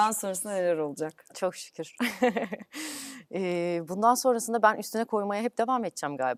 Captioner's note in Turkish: kahkaha